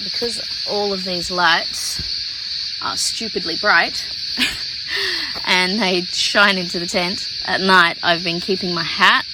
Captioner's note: laughs